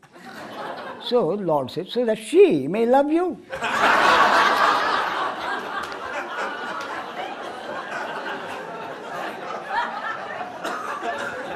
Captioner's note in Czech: smích